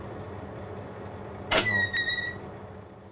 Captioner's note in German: Quietschen